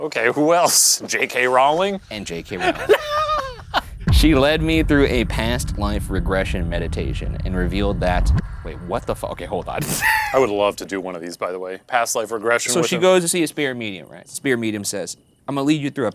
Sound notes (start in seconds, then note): 2.3 laughing; 9.8 laughing